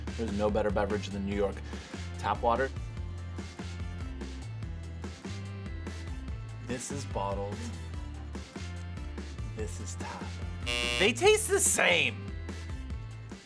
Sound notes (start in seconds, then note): 10.6 buzzing